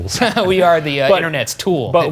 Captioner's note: both laugh